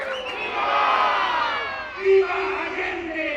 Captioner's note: crowd